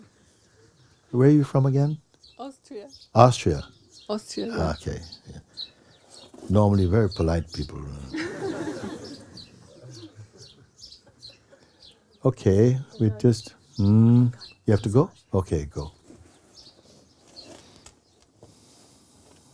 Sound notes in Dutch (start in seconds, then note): 8.0 gelach